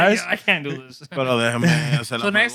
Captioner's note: speaking Spanish